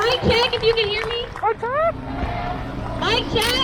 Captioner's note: crowd